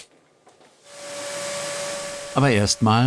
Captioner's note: roaring